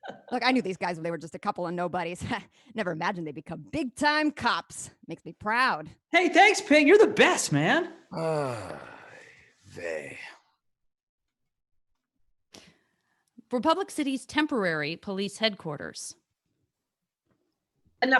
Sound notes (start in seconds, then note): 8.1 groans